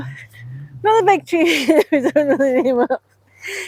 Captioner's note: laughter